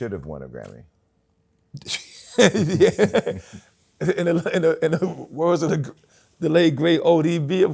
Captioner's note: laughs